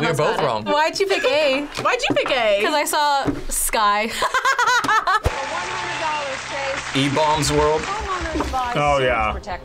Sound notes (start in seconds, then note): 4.6 laughs